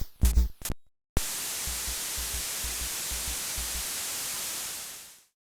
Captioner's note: water flowing